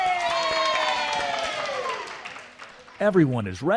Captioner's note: cast members cheering and clapping